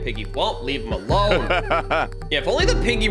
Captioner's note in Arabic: تضحك